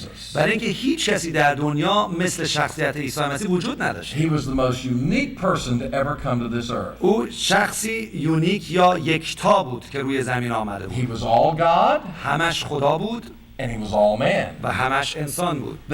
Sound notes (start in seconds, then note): 0.3 speaking Arabic; 6.9 speaking Arabic